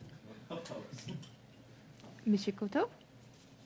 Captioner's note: conversation din